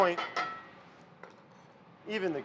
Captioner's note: spatula bangs against cast iron